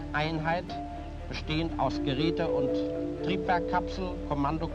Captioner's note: speaking German